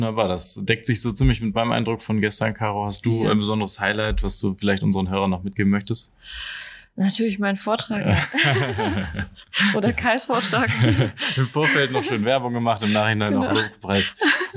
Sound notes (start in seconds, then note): 8.8 laughter